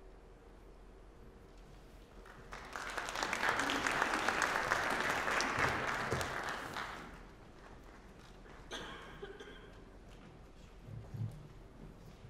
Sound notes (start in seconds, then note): 2.2 applause